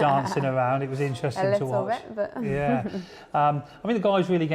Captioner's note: laughs